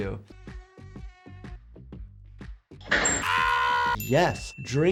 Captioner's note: mosquito buzzing; person yelping